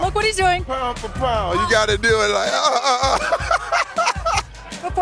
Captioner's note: laughs